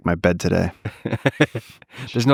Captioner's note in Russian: Лекс смеётся